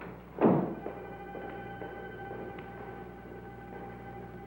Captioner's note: footsteps clacking